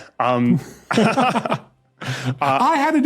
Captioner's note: laugh